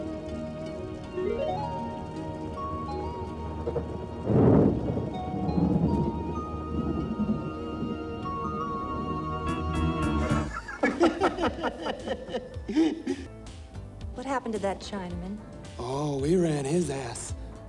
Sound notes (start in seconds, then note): 4.2 thunder rumbling; 9.6 gentle upbeat music; 10.0 all laughing